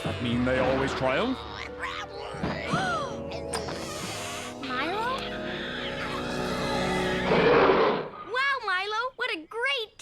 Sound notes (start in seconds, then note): 0.1 growling noises; 2.6 gasps; 5.0 growling; 5.0 growling noise